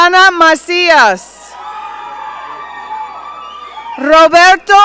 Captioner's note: audience cheering